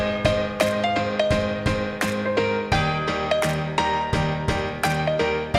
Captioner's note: applause